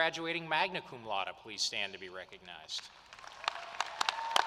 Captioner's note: applause